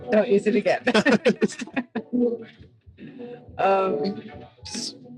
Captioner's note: group laughing